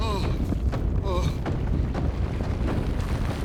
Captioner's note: Larry groaning